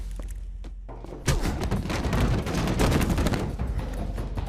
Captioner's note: punches smacking; kick thudding